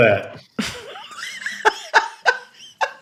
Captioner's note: laughter